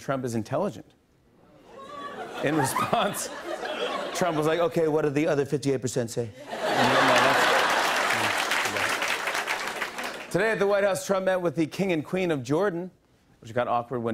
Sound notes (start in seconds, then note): 4.4 As Trump; 6.4 laughter and applause; 10.0 normal voice